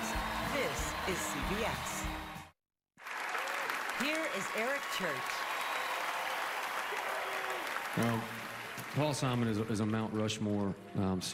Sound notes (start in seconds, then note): 7.1 applause